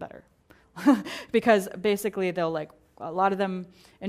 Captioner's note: laugh